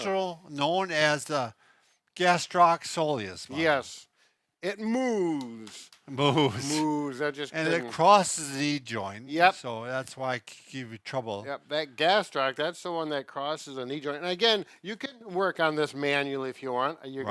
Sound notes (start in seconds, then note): 6.1 chuckles